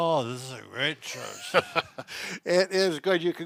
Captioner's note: laughs